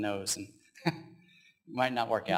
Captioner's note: laughs